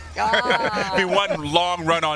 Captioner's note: laughter